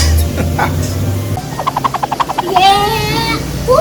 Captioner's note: laughs; cartoony swishing